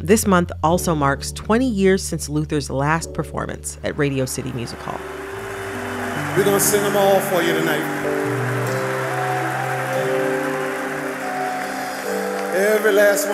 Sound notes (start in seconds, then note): 5.4 soundbite of archived recording; 12.1 applause